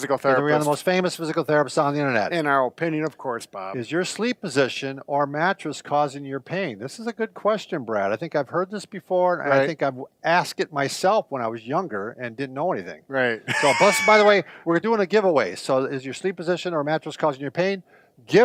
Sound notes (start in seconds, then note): 13.4 laughs